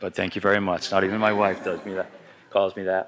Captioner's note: laughter